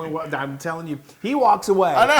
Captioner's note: laugh